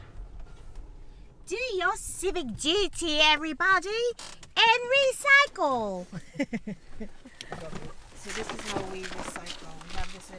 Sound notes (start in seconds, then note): 6.1 laughs